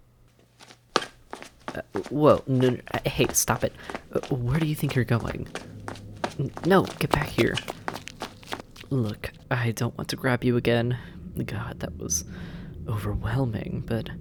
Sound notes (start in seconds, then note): 0.0 moment of total silence; 2.2 SFX: rustling, listener scrambling away; 6.6 SFX: scrambling sounds